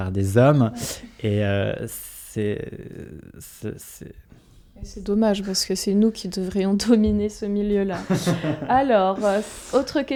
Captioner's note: laughs